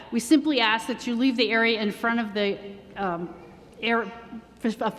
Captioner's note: none